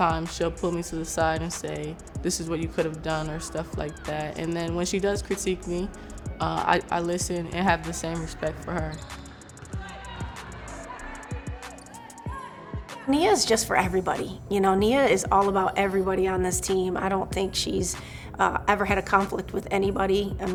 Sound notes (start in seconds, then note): 9.2 upbeat music; 9.2 voices speaking